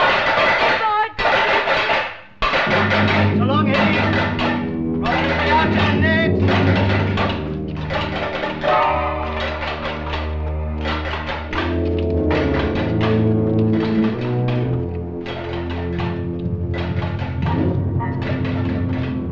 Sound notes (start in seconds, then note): 3.3 German spoken audio